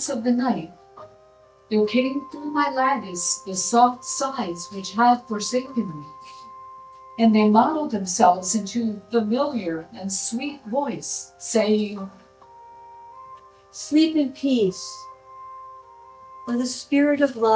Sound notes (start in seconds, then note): none